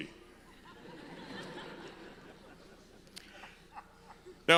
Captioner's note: audience laughs